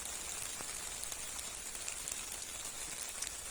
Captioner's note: heavy Rain Fades Out